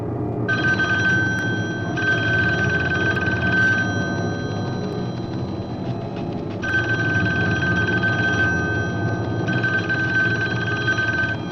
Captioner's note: phone Ringing